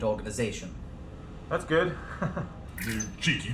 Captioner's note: nervous chuckle